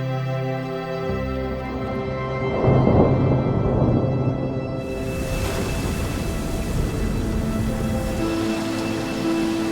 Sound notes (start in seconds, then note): 2.4 thunder rumbling